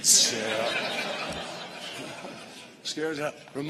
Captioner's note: laughter